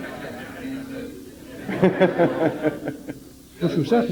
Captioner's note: amid laughter